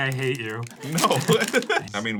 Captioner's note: laughs